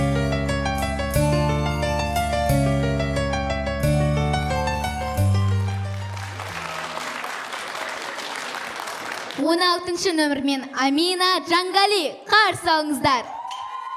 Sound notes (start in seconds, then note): 5.3 applause